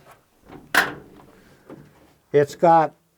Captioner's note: door creaking